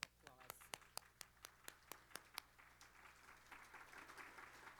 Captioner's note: applause